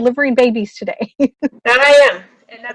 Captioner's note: laughing